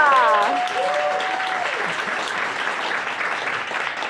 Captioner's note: audience applauding